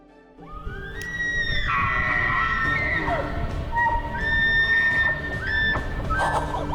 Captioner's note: gentle music; elk calls